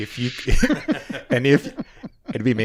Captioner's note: laughing